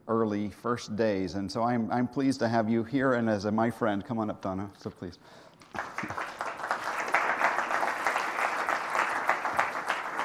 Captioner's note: applause